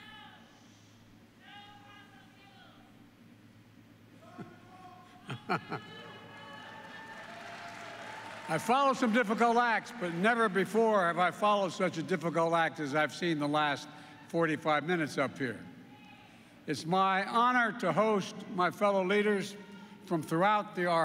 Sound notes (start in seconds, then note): 5.2 laughs; 6.0 applause